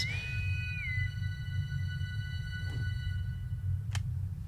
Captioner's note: intercom whistles